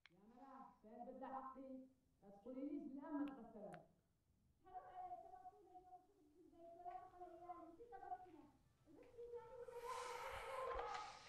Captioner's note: distant quarreling